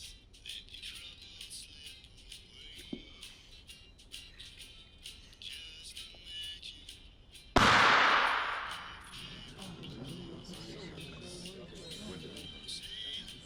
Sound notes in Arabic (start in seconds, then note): 0.8 موسيقى سماعة; 7.3 الكتاب يضرب الأرض بصوت عالٍ; 9.7 همهمة الناس، موسيقى سماعة الرأس يتابع